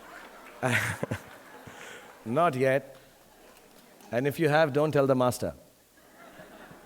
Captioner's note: laughs